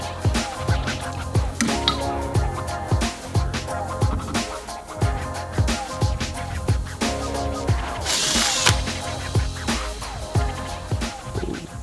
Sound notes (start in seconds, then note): 0.3 upbeat music; 8.0 tools whirring